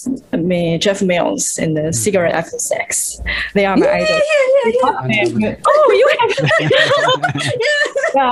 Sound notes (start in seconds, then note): 5.7 Risas